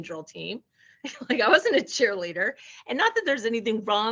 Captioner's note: chuckling